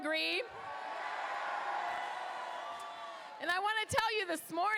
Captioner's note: crowd cheers